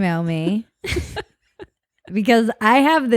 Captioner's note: both laugh